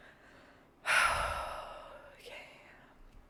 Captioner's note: sighing